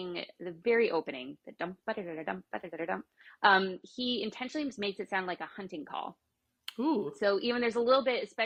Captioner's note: hums a few notes